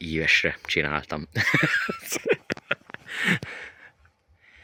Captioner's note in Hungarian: nevetés